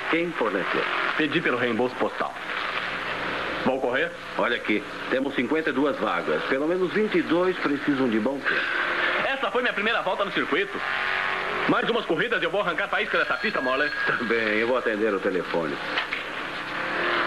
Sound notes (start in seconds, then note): 13.0 phone Rings